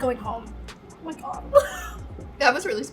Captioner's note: laughs